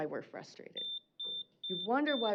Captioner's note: beeping